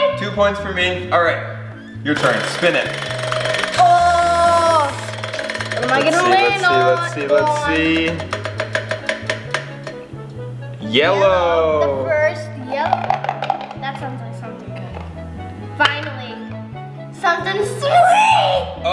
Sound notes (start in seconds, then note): 2.3 wheel spins; 7.0 wheels spins; 13.0 shaking box